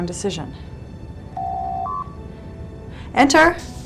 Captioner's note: door Chime